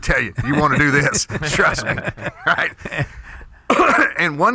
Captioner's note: laughter